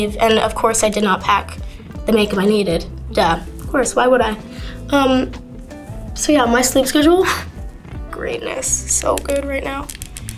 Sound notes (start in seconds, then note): 7.7 scoffs